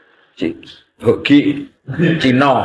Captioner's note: laugh